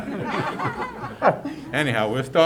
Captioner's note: laughter